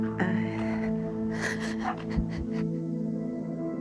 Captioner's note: sobbing